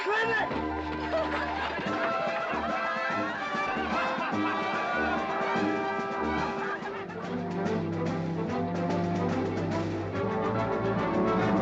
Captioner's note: amused crowd noises